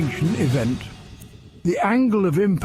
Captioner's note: an oscillating sound effect plays